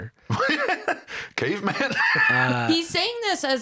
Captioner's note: laughs